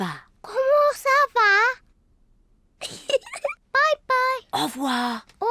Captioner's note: giggles